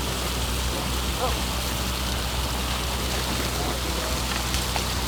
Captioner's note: water splashing